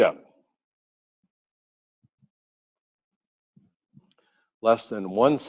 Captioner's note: pause